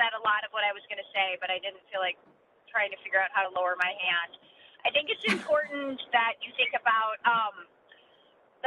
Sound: laughter

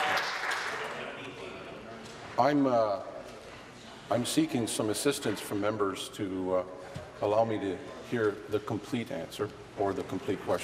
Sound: applause

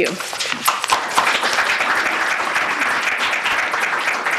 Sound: applause

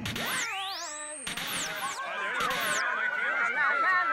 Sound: crowd chattering excitedly

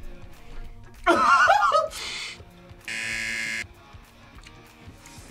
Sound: buzzer; laughs

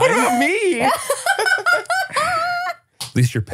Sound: laughs

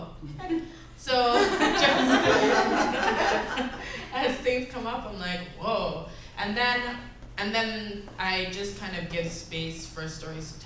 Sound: giggles

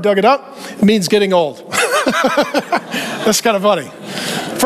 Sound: chuckling

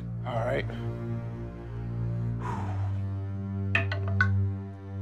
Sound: deep breath; dice rolling

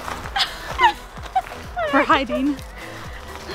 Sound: laughing

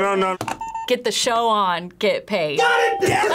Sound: buzzer rings

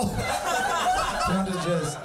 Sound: audience laughing

